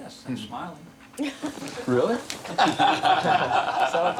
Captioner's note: all laughing